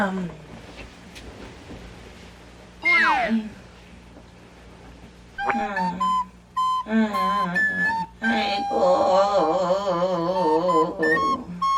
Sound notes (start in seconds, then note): 3.0 moaning